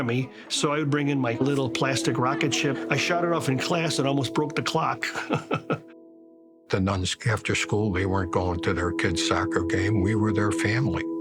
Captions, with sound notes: so I would bring in my little plastic rocket ship. I shot it off in class and almost broke the clock. (laughs) - The nuns, after school, they weren't going to their kids' soccer game. We were their family, you know?